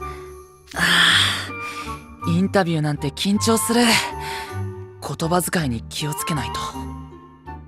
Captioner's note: sigh